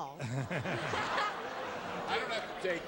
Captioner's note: audience laughs